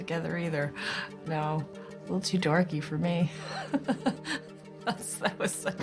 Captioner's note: laughing